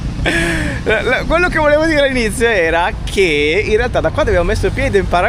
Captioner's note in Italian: suono gutturale